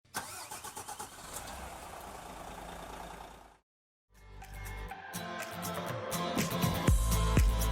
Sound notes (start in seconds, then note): 0.1 car engine starting; 4.2 upbeat ambient music